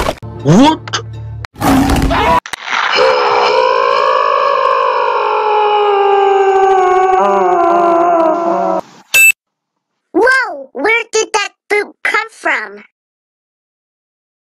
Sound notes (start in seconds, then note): 2.8 Bowling Ball Screaming; 2.9 roars